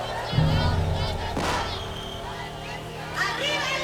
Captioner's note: gunshot